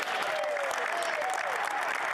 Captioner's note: speaking French